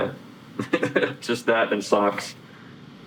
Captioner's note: laughs